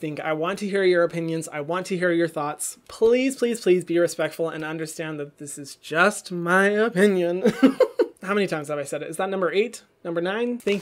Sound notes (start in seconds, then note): 7.5 laughs